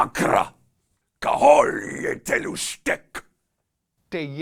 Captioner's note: alien sounds